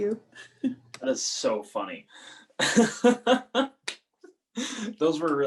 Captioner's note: laughing